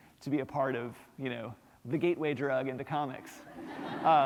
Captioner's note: laughter